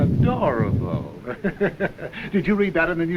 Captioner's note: laughs